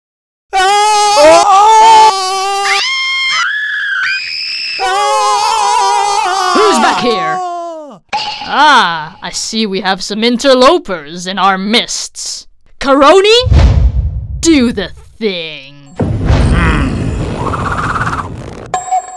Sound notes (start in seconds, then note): 6.4 maine screams; 6.4 vince screams; 6.4 maine screams like a cat; 6.4 vince screams again; 6.5 maine's girly scream; 6.5 vince's girlish scream; 6.5 both scream in unison; 16.0 karoni grunts